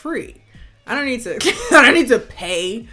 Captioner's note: scoffs